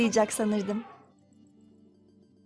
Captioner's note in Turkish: Fil sesi efekti